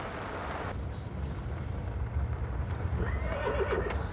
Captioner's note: horse whinnying